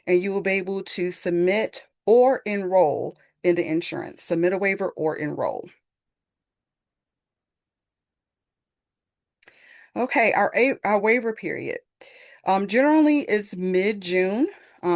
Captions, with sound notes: and you will be able to submit or enroll in the insurance. Submit a waiver or enroll. [pause] Okay, our waiver period generally is mid-June.